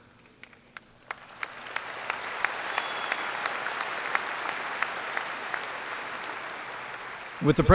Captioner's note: applause